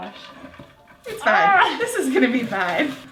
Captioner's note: groaning